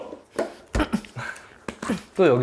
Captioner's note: thud!